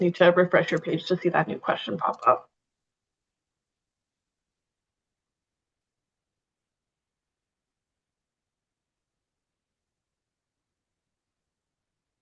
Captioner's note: pause